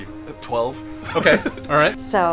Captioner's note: chuckles